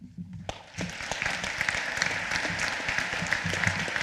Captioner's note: applause